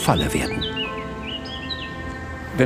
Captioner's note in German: Vogelgezwitscher